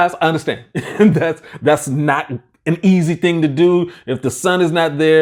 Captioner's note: laughing